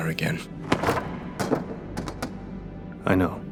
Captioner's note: rock banging